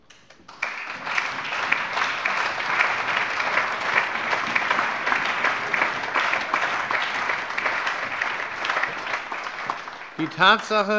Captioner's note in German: Allgemeiner Beifall